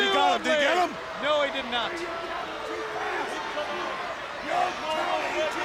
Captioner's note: crowd chattering